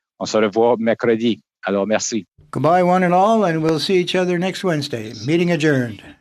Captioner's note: speaking French